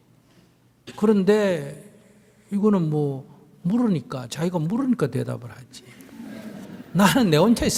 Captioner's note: audience Laughter